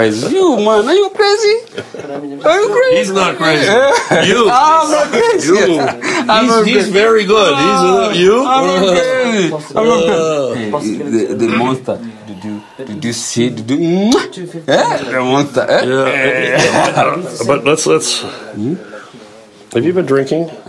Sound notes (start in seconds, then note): 9.1 laughs